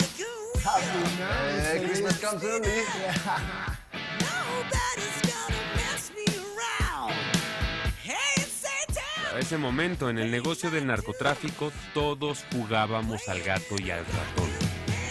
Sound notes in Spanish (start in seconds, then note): 2.8 Risas